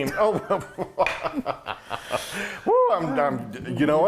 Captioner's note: laughing